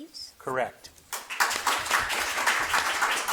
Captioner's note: audience clapping